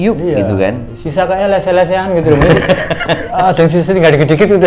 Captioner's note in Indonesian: tertawa